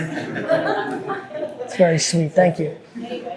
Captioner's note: group chuckling